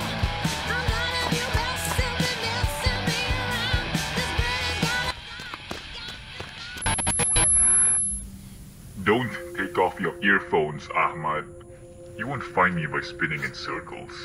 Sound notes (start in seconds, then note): 6.8 piercing noise; 8.3 suspenseful music; 8.9 music stops